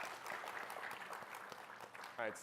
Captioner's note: applause